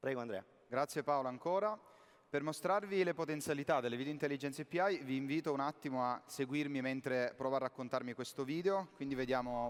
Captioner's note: speaking italian